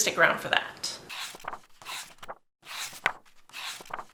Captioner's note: pages turning